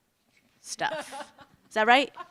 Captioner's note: laughter